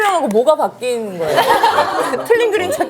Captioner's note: giggles